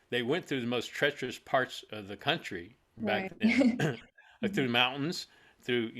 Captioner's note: laughs